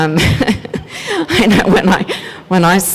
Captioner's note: laughs